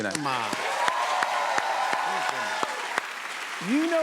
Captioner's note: cheers and applause